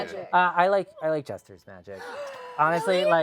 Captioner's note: gasp